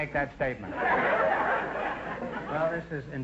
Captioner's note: audience laughter